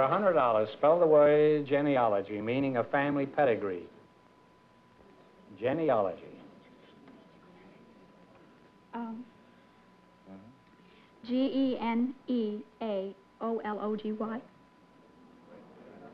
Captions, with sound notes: For $100, spell the word genealogy, meaning a family pedigree. Genealogy. [WRITING] Um-- Mm-hmm. G-E-N-E-A-O-L-O-G-Y?